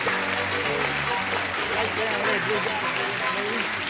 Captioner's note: applause